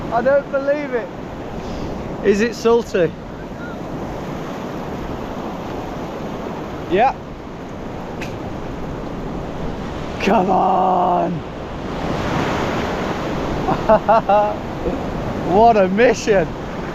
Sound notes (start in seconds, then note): 11.5 waves splashing; 13.6 laughs